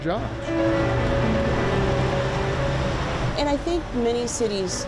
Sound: motor rumbles

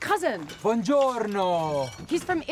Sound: speaks in Italian

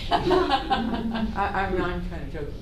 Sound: laughter

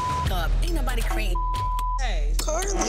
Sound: beep

